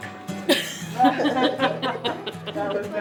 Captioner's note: people laughing